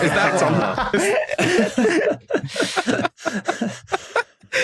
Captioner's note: group laughing